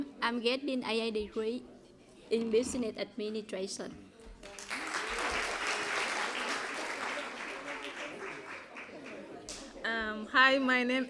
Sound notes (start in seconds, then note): 4.4 applause